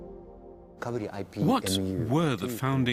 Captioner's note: speaking japanese